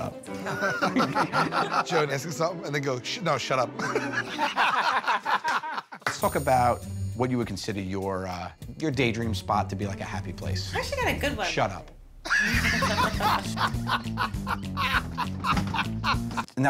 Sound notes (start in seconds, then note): 0.3 laughter; 3.8 laughter; 12.2 laughter